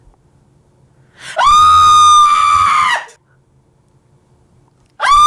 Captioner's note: screams